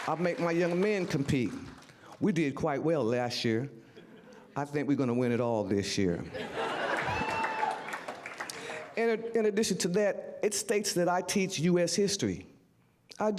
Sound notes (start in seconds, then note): 6.6 audience whooo's and applause